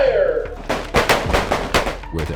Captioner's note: gunshots